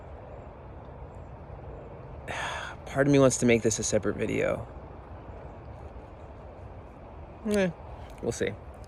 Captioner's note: sigh